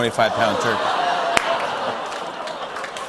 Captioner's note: laughter